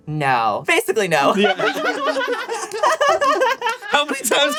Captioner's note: laughs all around